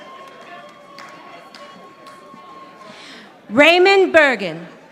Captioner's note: audience applauding